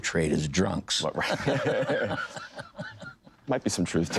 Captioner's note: men laughing